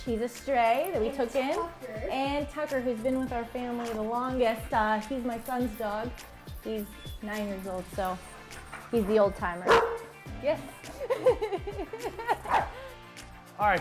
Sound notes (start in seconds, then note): 9.6 dog barking; 10.4 laughing